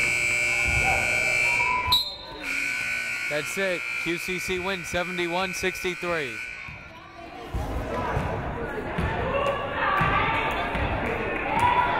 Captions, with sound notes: (whistle blows) (buzzer blares) That's it, QCC wins 71-63. (crowd chattering)